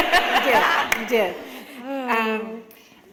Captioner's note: laughter